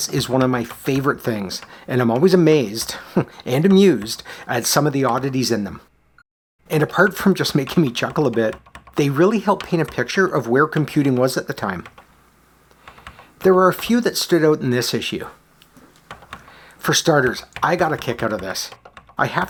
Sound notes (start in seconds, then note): 2.9 chuckles